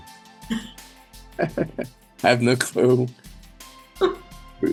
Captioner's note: laughs